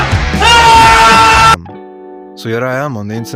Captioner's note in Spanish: grita